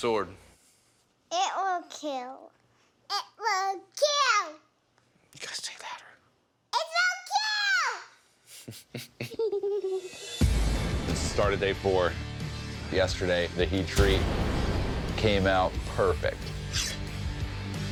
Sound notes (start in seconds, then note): 8.5 laughs